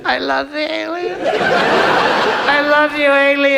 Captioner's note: audience laughs